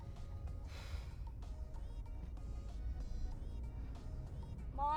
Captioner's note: Abby huffs